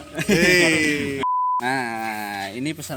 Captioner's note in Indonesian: bip